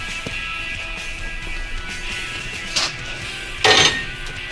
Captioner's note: objects rustling